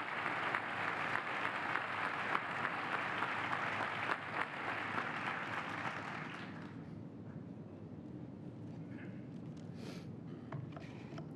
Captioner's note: applause